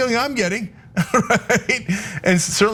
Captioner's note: laugh